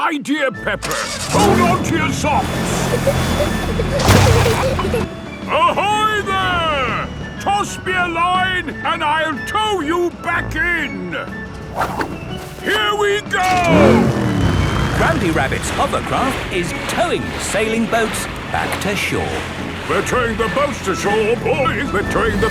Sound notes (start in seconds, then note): 3.3 peppa and george giggling